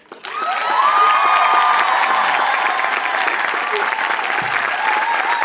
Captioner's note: audience cheers and applauds